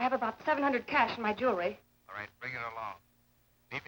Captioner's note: on phone